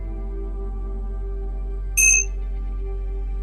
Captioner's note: bell chimes